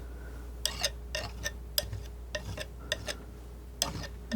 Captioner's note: scraping